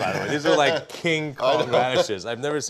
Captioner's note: laughs